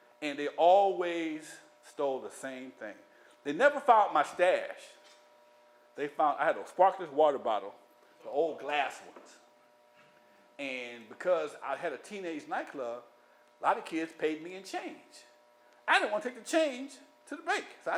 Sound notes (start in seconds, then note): none